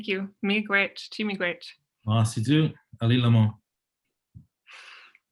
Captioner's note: both speak in foreign language